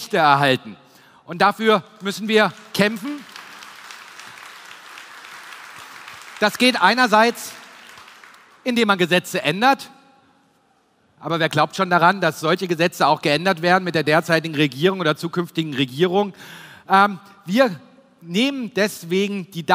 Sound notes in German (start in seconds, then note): 1.9 Applaus